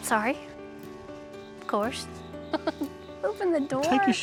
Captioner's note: chuckling